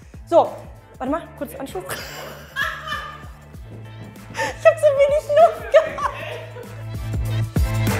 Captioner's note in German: Lachen